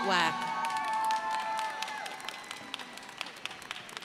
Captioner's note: crowd applauding